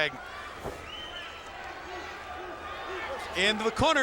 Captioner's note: crowd chattering